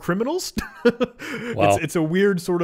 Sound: laughing

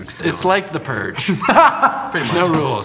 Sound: laughs

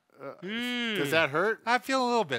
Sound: groans painfully

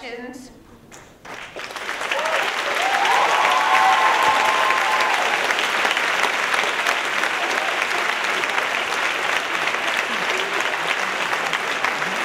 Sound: cheers and applause

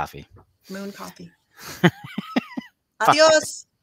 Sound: laughing

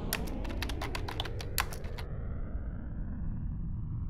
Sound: keyboard clacking

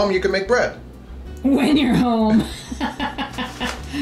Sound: laughs

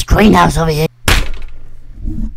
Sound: slam

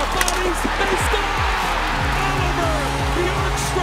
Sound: audience cheering and clapping

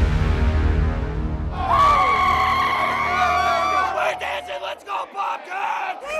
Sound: cheering

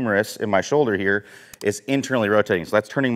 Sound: mouse clicks

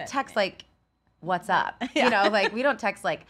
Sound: laughs

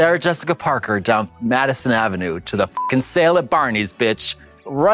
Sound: beep

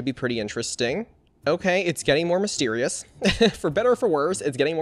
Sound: laughs

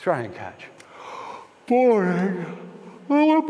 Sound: yawn

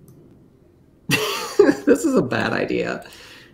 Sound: laughs

